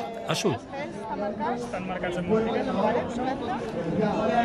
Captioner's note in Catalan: remor de fons